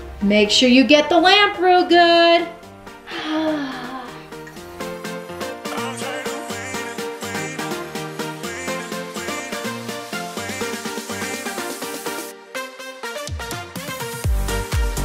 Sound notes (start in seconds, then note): 3.1 daughter groans; 4.8 upbeat electronic music